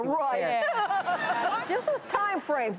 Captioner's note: audience laughing